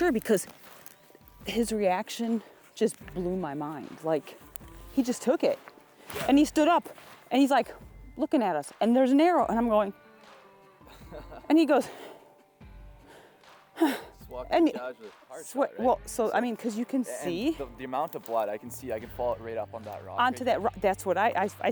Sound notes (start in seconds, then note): 10.8 sighs; 10.8 laughs